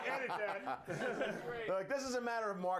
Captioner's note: all cheer